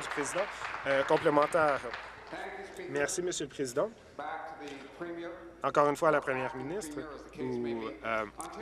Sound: applause

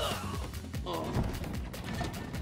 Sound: grunting; groaning

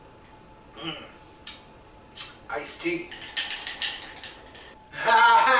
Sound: rattles glass; laughs

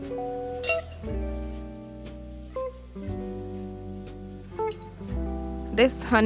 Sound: soft piano music continues; pot clangs

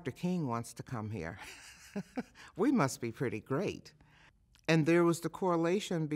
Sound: chuckles

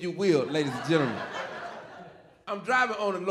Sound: audience laughing

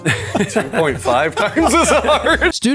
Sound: laughs

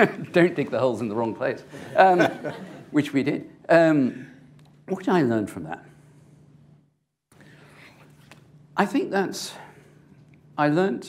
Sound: laughs; laughter

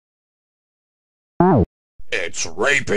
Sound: super mario world sound

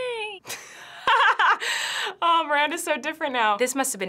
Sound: laughs

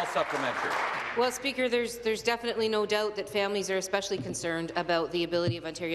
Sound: applause

